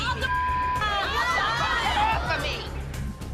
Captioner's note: all shouting